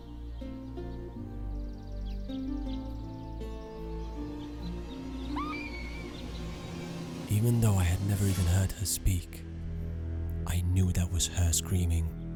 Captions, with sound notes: (woman screaming) Even though I had never even heard her speak, I knew that was her screaming.